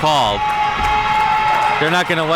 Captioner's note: audience cheering